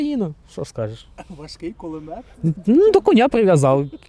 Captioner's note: laughing